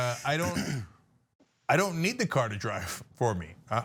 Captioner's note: laugh